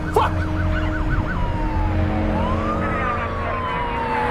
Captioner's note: sirens blaring